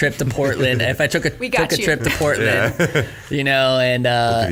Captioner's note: chuckles